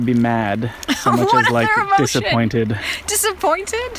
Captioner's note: laughs